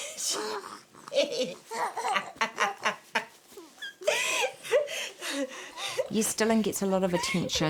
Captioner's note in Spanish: Risas